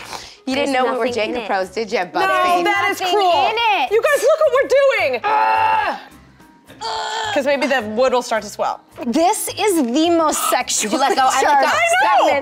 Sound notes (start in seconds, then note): 5.2 grunts